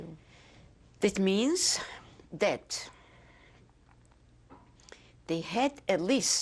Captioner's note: pauses for 3 seconds